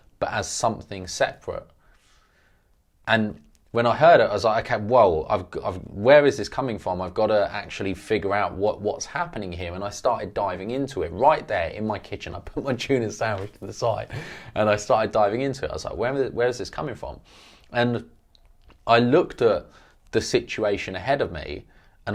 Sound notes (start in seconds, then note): 14.0 laughs